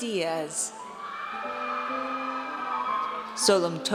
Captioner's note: audience cheers